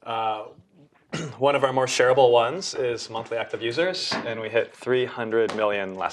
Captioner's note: cough